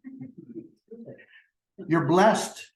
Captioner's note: laughter